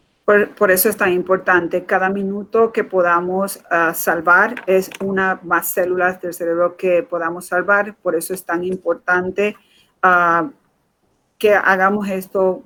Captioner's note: speaking in Foreign Language